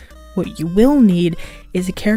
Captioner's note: inhales